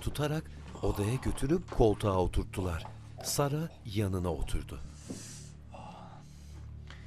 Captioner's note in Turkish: Müzik - Gerilim; İnleme sesi